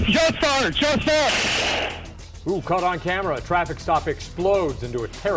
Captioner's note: sound of gunfire